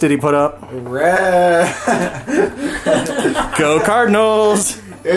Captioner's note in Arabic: يضحك